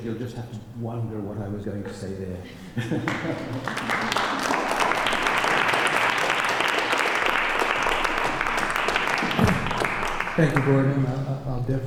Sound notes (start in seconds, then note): 3.0 applause